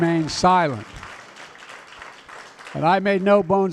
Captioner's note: applause